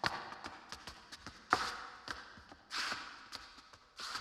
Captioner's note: shoes clacking